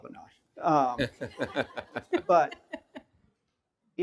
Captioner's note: everyone laughing